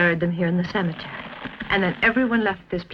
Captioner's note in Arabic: صرير الارض